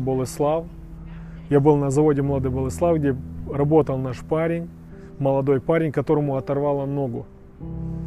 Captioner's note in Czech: Ukrainian